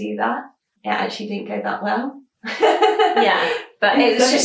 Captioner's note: laughing